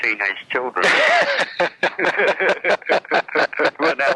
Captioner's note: laughs